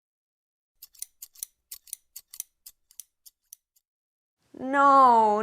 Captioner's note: sound of scissors